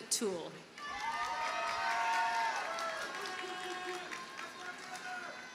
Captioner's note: audience cheers and applauds